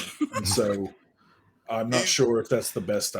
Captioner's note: laughs